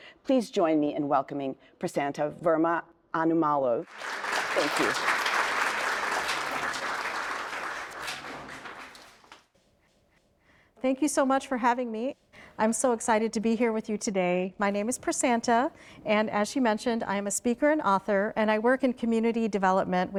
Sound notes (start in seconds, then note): 5.7 audience applauds